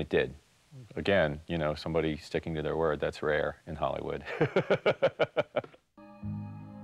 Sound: laughs

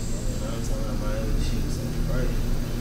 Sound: whispering

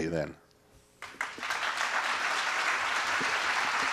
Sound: applause

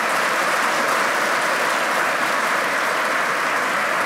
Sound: applause

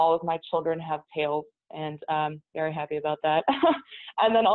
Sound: chuckles

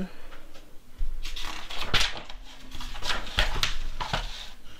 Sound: page flips

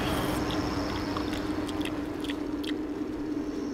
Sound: chewing

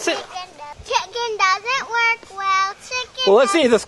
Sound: voiceover

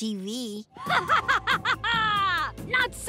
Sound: laughing

